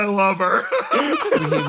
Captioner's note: laughs